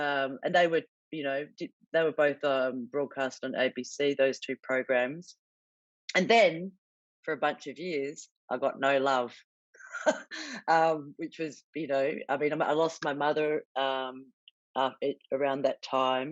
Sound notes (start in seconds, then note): 9.9 chuckles